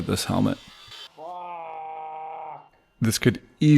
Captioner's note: screams